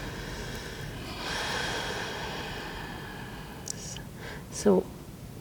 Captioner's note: therapist breathes deeply